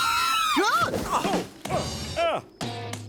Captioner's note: screaming; grunts